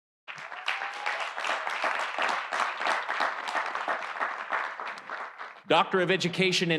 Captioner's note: audience applauding; audience cheering